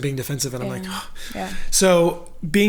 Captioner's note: sighs